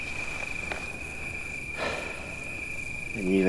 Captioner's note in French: soupir